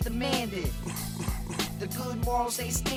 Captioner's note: cough cough cough